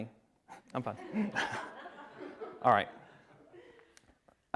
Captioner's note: attendees laughing